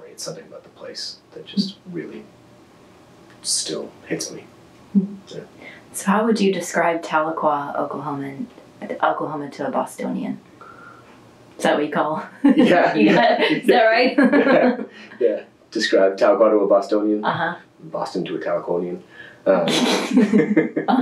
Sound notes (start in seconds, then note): 15.6 laughter